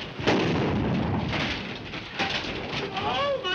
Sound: artillery booming; camera clattering

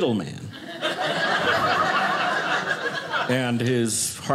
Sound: audience laughing

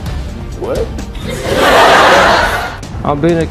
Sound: audience laughs

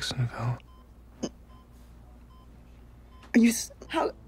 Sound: heart monitor beeping

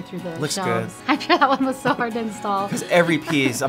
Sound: laughing

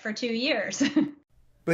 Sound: laughter

